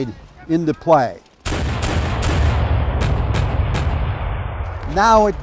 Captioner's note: cannons booming